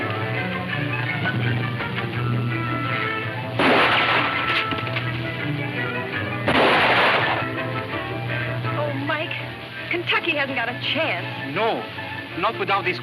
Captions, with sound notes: (dramatic music playing) (guns firing) - Oh, Mike. Kentucky hasn't got a chance.